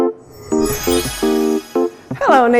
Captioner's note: magic wand swooshes